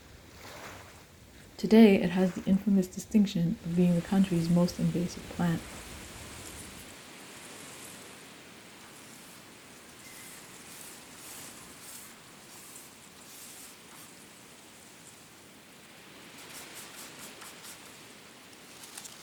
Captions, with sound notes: Today, it has the infamous distinction of being the country's most invasive plant. [eraser noise]